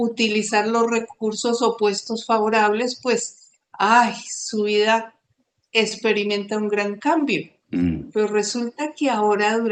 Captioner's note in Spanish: carraspeo